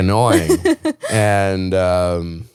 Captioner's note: laughing